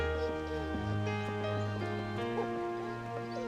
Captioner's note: Patch whining